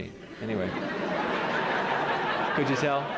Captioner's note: laughter